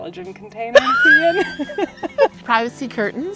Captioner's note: both laugh